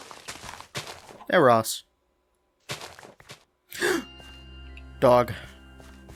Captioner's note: gasp